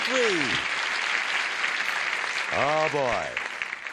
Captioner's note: applause